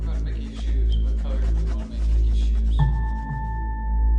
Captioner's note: adults talking